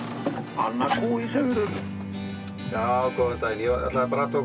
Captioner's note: Icelandic spoken audio